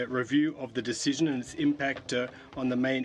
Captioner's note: speaking French